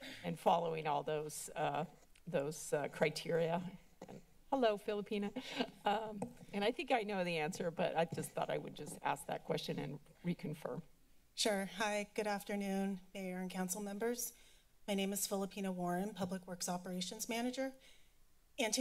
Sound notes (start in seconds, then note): 3.6 mic Thumps; 6.0 laughs